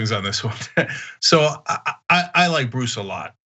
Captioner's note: laugh